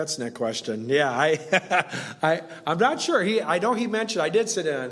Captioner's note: laughs